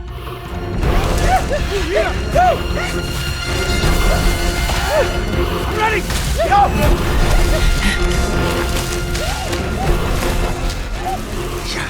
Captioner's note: whooping and panting through forest